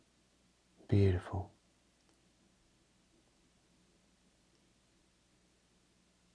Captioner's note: silence